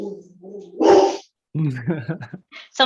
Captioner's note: dog barking; laughing